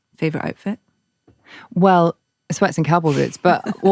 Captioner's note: laughs